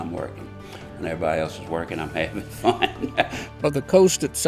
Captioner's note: laughs